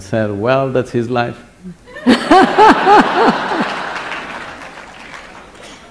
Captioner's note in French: Rires / Applaudissements